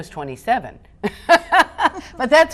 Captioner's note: laughs